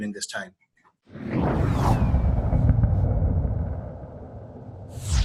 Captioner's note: plane soaring